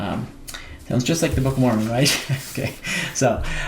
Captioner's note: chuckles